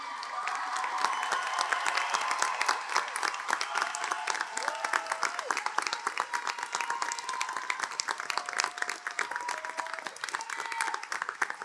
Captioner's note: audience Cheering